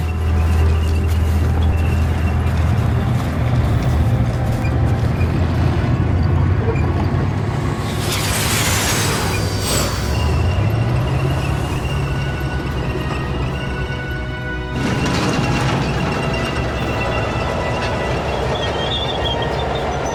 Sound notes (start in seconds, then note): 0.1 grinding of treads; 6.7 hissing of jetpacks; 10.0 triumphant music